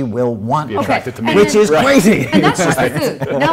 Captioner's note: laughs